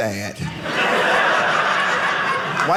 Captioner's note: audience laughing